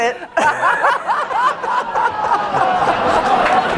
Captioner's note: laughter